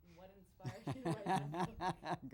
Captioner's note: laughs